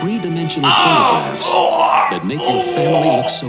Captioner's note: loud groans